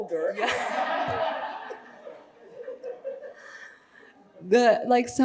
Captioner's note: audience laughing